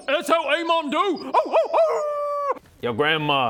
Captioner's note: howls